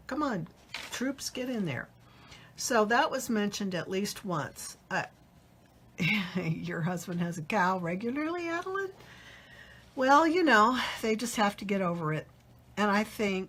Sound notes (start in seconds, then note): 6.4 laughs